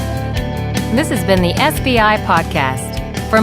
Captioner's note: upbeat music; voiceover